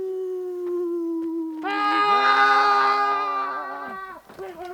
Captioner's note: screaming